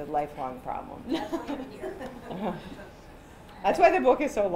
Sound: laughter

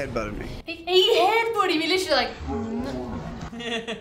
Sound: murmurs; laughs

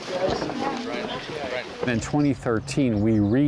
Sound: crowd murmurs

